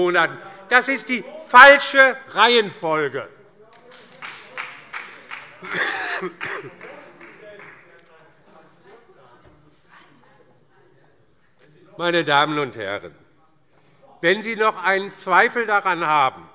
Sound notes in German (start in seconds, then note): 3.8 Beifall DIE LINKE - Zurufe